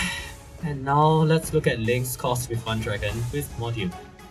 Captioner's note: sigh